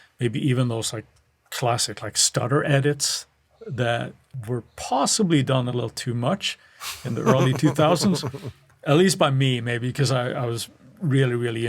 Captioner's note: laughs